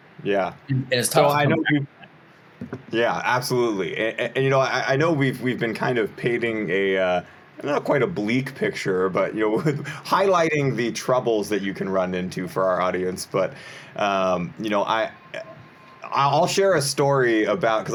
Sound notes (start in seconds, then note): 9.5 chuckles